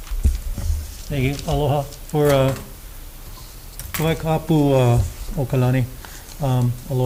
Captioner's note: speaks Hawaiian